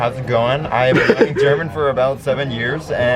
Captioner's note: lols